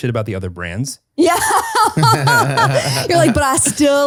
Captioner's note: all laughs